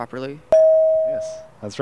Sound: bell

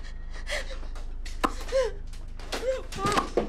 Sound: pop

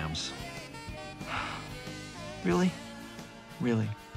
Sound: sighs

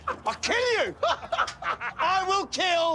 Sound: laughter

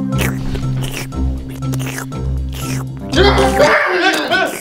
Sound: jaunty orchestral music continues; Scooby Doo guzzling

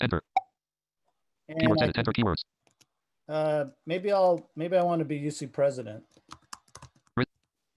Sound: screen reader reads fast

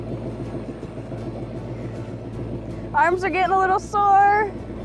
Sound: engine idling

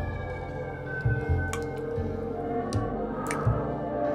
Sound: faucet drips distinctively

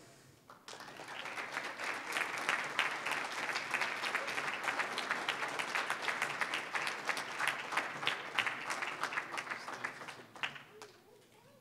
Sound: applause

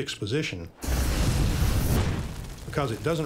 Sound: flamethrower roaring

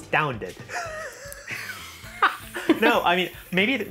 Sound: all laugh

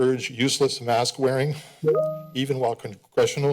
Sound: timer sound

